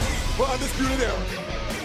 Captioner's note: bell ringing